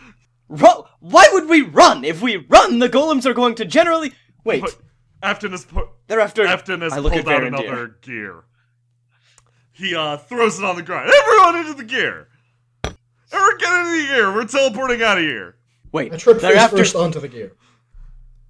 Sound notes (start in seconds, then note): 12.4 clank